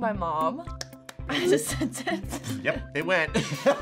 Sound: claps; laughs

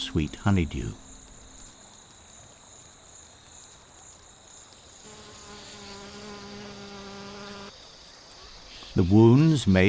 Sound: bee buzzing; birds chirping

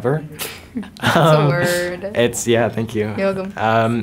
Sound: Wyatt chuckles

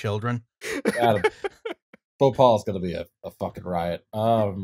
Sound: laughter

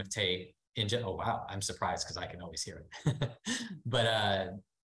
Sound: laughs

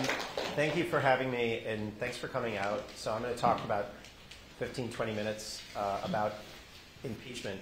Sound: applause

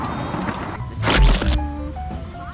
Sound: squirt sound

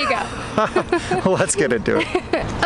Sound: both laugh

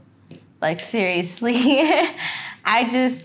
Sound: laughing

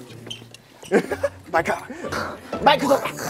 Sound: laughter

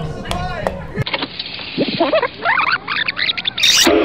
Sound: rewind sound effects

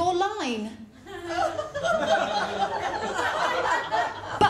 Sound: laughter

